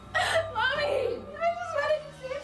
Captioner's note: crying